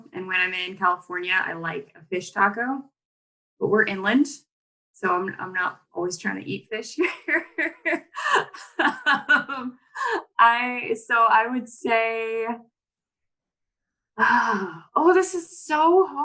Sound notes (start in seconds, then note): 7.4 laughs